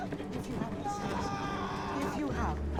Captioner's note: man screaming